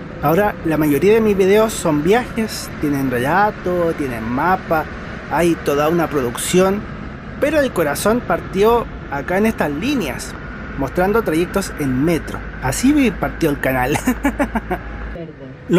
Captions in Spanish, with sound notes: ahora la mayoría de mis videos son viajes, tienen relato, tienen mapa hay toda una producción detrás pero el corazón partió acá en estas líneas, mostrando trayectos en Metro así partió el canal (risas)